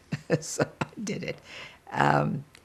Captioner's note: laughing